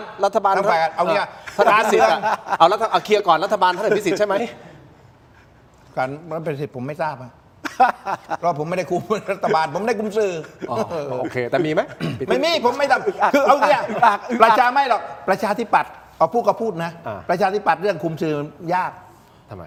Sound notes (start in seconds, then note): 7.6 laughter; 12.0 clears throat; 13.2 laughter